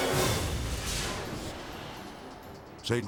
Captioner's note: transition whooshes